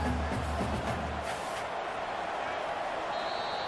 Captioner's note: crowd cheering